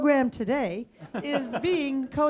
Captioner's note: audience laughs